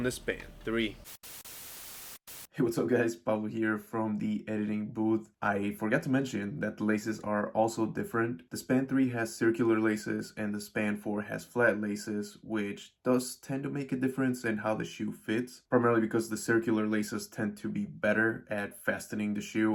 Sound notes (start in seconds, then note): 0.7 static